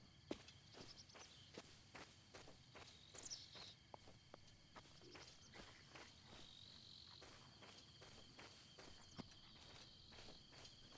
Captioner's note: birds chirping